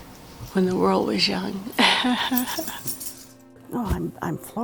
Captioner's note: laugh